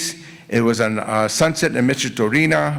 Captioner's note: foreign language